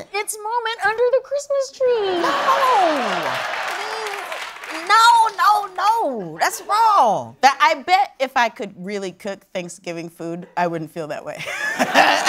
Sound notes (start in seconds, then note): 2.4 applause